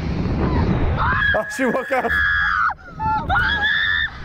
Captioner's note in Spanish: la niña continúa gritando